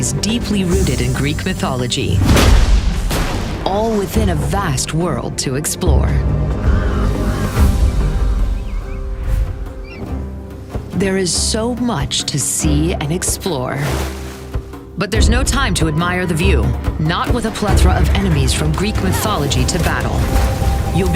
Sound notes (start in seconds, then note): 5.8 birds chirping